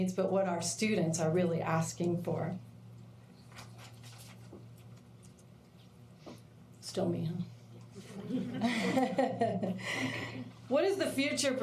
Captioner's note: laughter